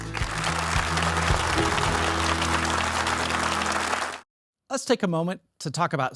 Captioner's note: audience applauding